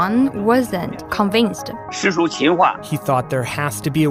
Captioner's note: speaking Mandarin